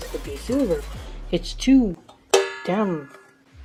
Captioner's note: clang